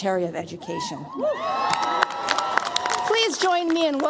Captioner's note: cheers, applause